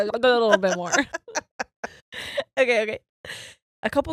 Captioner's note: laughing